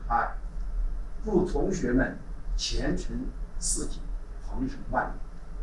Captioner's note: speaking Chinese